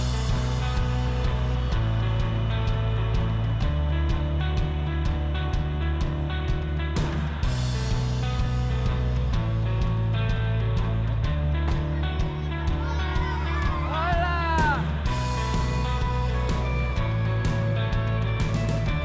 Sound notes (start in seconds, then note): 0.1 upbeat rock music; 11.8 children cheering